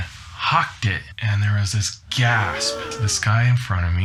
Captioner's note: gasp